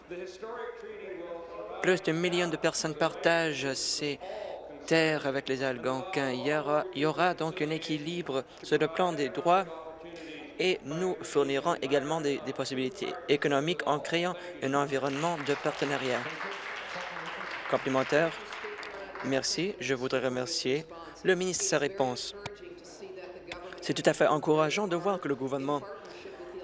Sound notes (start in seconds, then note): 18.4 applause